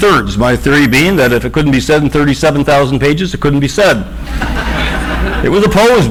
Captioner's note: audience laughs